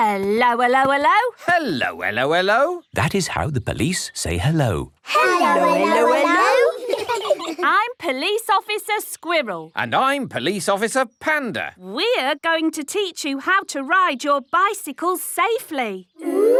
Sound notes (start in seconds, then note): 5.1 children giggle